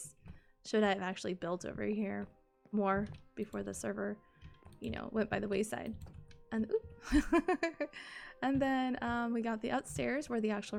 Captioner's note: laughs